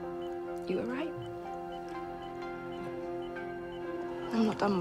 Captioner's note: none